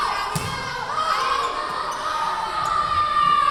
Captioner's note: yelling